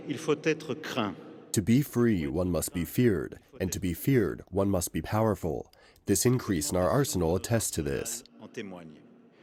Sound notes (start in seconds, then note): 1.9 through translator